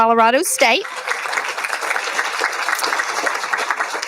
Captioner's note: applauding